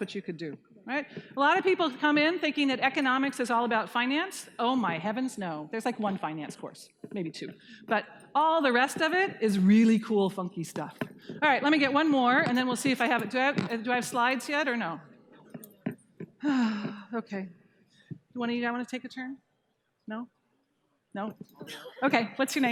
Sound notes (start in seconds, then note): 16.4 sighing